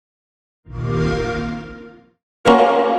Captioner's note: xbox sound